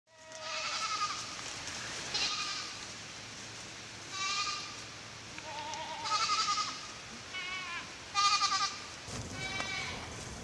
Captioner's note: goats bleating